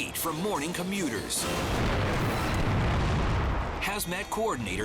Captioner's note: explosion booming